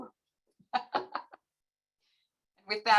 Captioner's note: laughs